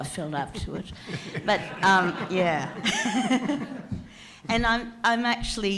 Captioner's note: audience laughs